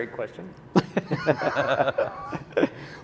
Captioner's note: laughing